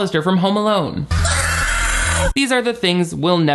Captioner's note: actress screams